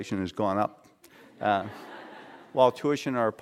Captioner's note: laughter